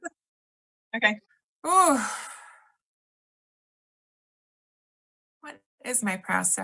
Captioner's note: sighs